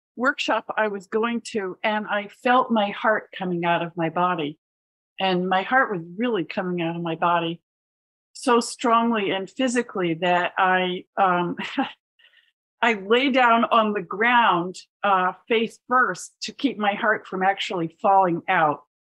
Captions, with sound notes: workshop I was going to. And I felt my heart coming out of my body, and my heart was really coming out of my body so strongly and physically that I, um, [laughter] I lay down on the ground, uh, face first to keep my heart from actually falling out.